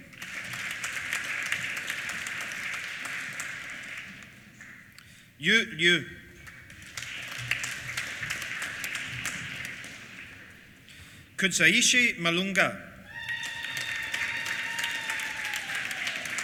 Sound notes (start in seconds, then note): 0.0 applause; 6.4 applause; 13.0 applause